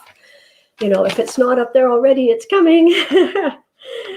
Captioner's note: laughs